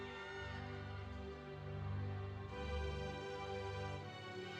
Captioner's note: students shouting